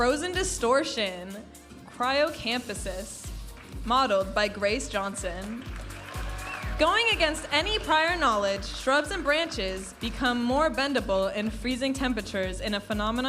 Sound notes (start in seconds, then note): 5.5 audience applauding and cheering